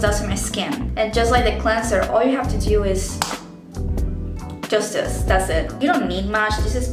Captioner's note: click